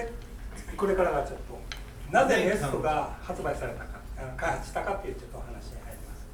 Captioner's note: speaking in foreign language